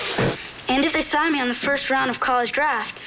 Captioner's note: sighing